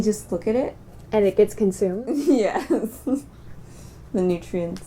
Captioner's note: laughing